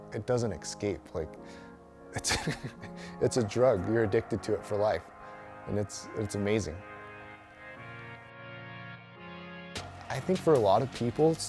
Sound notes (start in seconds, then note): 2.1 chuckling; 7.9 inspirational music